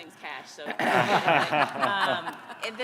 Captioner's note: all laughing